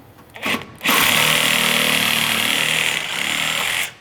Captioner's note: cutter whirs